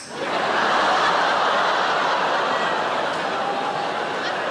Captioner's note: audience laughs